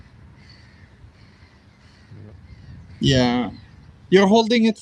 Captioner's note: birds chirping